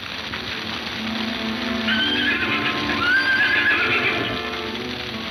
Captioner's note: horses whinnying